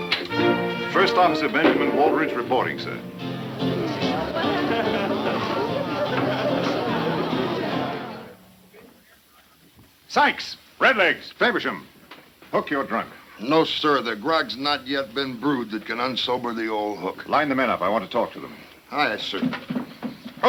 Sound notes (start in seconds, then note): 0.1 adventurous music; 3.4 lively music; 3.4 people chattering